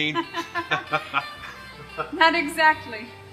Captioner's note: both chuckling